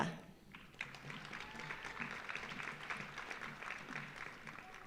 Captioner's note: audience applauding